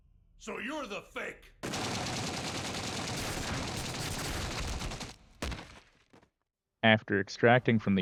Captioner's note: gunfire